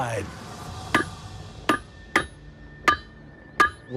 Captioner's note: metal clangs